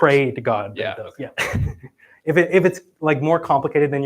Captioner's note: chuckles